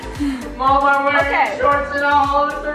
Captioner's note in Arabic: يتأوه